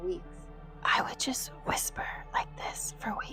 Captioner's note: whispering